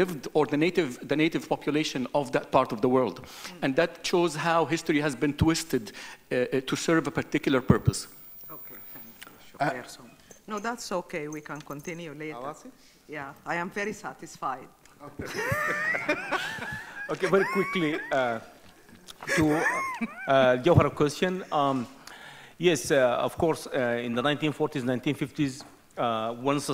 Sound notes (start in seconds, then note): 9.2 speaks off microphone; 12.3 speaks in foreign language; 15.2 chuckles; 15.2 host chuckling